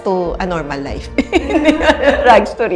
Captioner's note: laughs